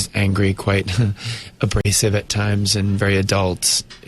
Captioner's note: chuckles